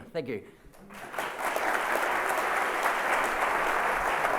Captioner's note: applause